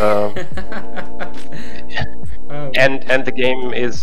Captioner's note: laughing